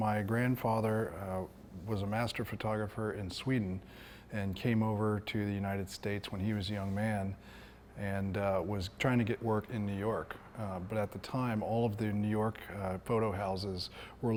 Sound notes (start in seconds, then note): none